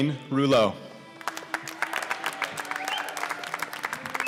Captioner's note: applause